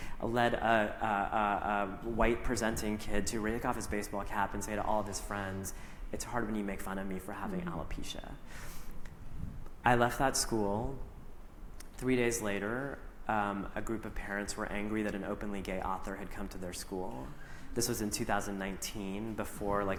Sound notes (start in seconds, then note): none